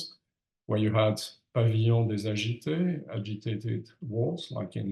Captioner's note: speaks in French